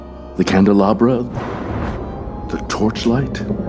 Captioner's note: thunder; timpani roll